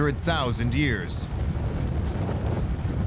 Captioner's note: deep rumble